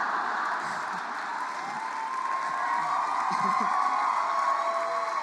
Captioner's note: cheers and applause